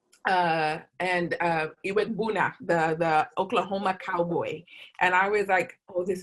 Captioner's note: non-english speech